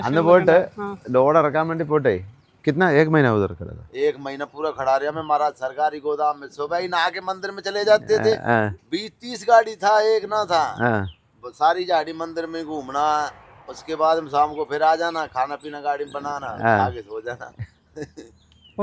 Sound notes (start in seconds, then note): 4.0 speaks in Hindi